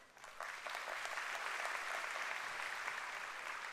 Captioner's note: applause